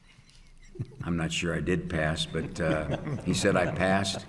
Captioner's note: panel laughing